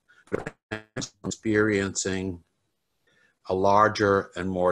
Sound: crackling drowns out

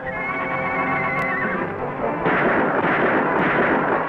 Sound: horse neighs; gunshots

